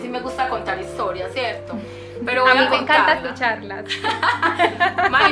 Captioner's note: laughs